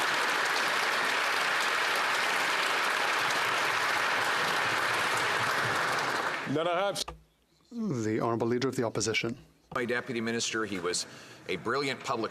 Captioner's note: applause